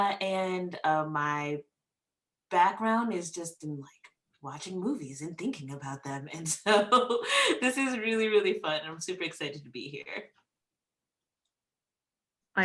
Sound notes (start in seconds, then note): 7.5 laughs